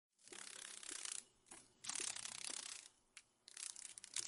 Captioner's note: sounds of a dragon fly